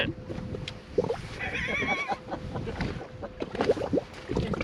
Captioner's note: laughter